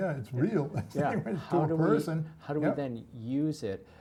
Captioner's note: laugh